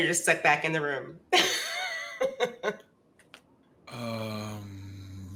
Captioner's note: laughs